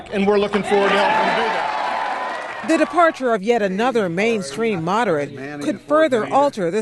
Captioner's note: cheering and applause